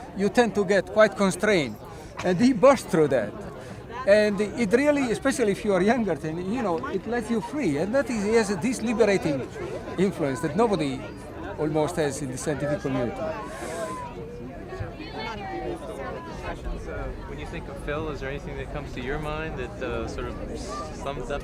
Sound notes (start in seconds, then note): 14.3 indistinct chatter